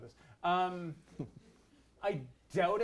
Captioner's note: laughs